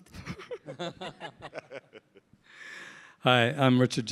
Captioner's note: chuckling